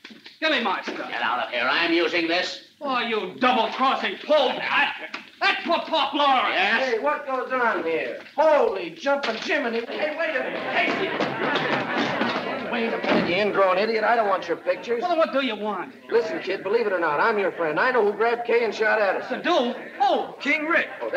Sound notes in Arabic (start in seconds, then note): 11.3 الناس يتحادثون